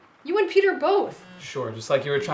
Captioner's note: phone buzzing